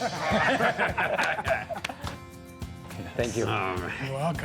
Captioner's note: everyone laughs